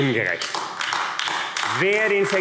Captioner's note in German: Beifall AfD